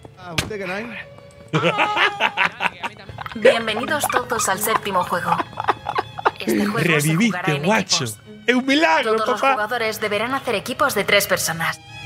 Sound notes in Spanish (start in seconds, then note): 1.5 grita